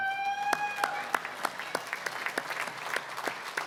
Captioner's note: applause, cheering; applause